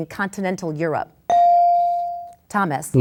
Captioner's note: bell dings